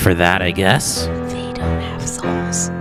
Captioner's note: whispering